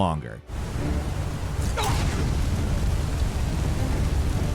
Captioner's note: tense dramatic music; flames whooshing